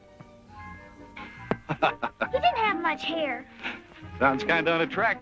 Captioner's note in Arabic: يضحك